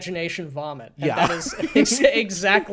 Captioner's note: laughs